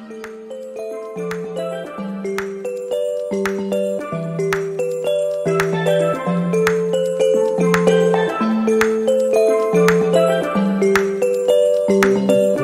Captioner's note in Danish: Bifald